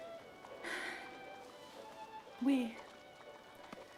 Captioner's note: sighs